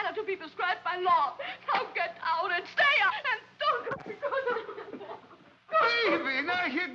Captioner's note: sobbing